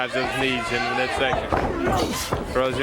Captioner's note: crowd cheering; crowd chatter